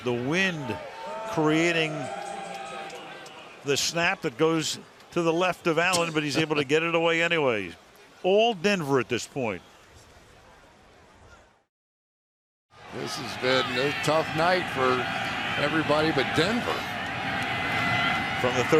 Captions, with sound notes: So the wind creating-- [cheering] --the snap that goes to the left of Allen, but he's able to get it away anyway. All Denver at this point. This has been a tough night for everybody but Denver.